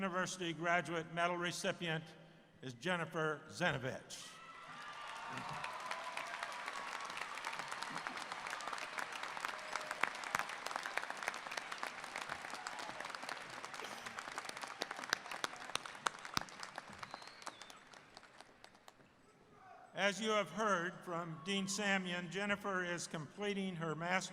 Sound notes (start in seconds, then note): 8.1 applause